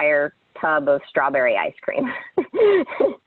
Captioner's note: laughs